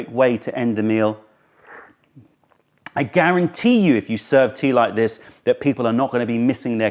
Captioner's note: sips tea